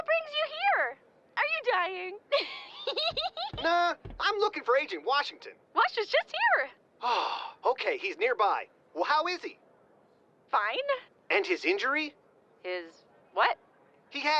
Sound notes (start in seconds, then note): 2.3 giggling; 7.0 relieved sigh